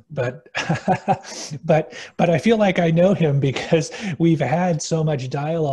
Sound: laugh

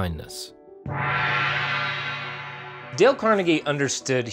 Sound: gong rings

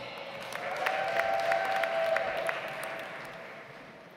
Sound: audience applauds

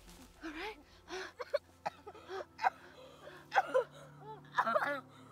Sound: Mark coughs

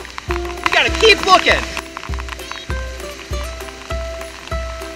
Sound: voiceover

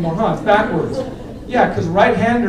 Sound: laughter

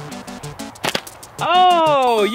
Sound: video game music plays; pellet strikes

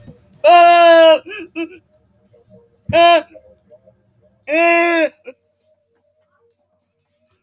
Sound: bandu crying noises

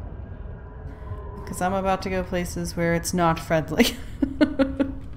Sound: laughs

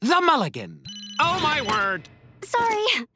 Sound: phone ringing

